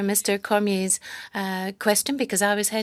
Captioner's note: speaking French